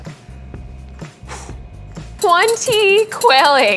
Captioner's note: exhaling